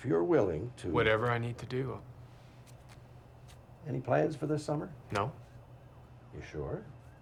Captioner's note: man talking on television